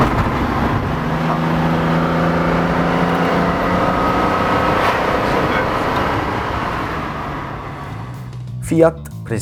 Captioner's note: Dino engine sound